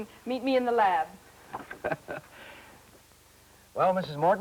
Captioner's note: laughs